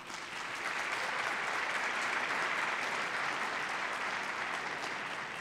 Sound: applause

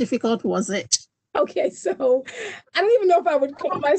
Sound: chuckles

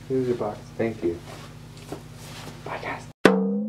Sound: quietly

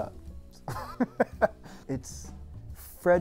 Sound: chuckling

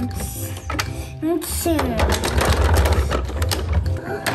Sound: toys bang

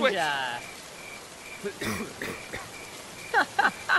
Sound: cough, cough, cough

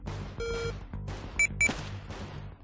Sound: beep beep💀

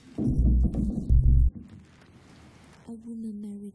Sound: loud banging

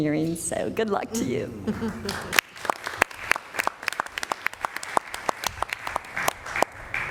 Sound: applause

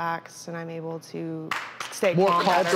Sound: applause

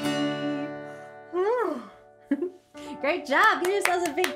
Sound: yawns

